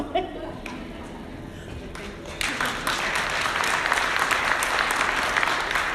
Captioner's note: audience applauding